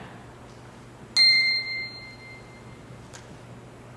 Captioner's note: ping